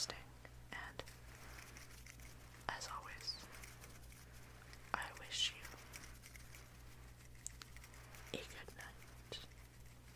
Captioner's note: finger fluttering in the background